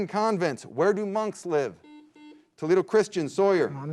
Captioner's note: beep